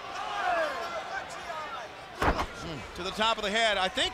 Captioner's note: crowd chatter